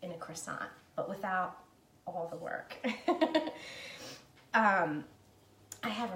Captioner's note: laughing